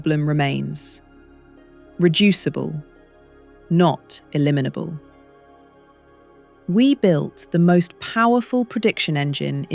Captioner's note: serious tone